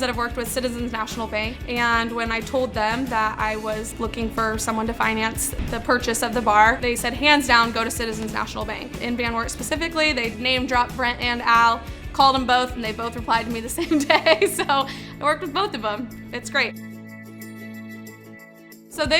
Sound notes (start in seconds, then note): 13.8 laughing; 17.2 upbeat music